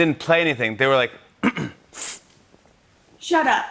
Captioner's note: clears throat, sniffs